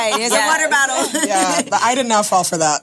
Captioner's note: laughs